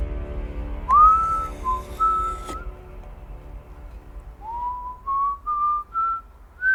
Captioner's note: whistling